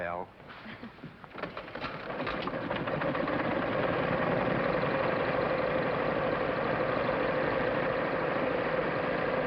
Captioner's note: engine starts